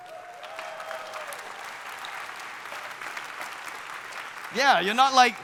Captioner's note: audience applauding